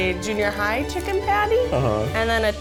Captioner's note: humming